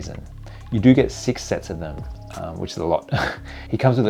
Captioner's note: laughs